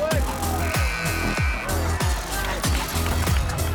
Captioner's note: buzzer buzzing